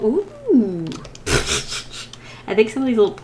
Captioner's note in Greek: Γέλια